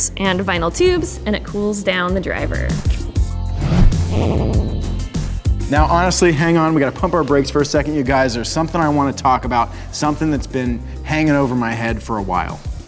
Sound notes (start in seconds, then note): 3.7 funky guitar music; 4.0 vibrating electronic tone